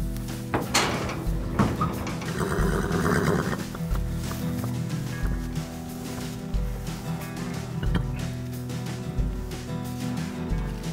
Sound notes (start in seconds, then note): 0.0 guitar music; 1.8 horse neighing; 4.1 guitar music